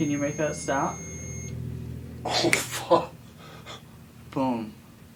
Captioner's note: ringing stops